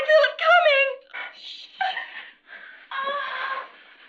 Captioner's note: shushing softly